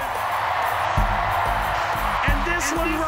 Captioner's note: crowd cheering and clapping